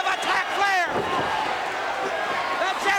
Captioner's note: crowd cheering